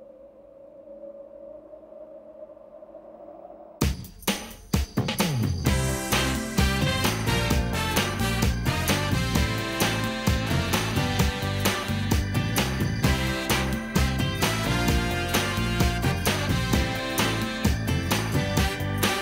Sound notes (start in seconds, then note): 0.0 wind howling; 4.4 upbeat pop music